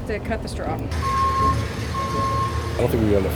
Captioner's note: beeps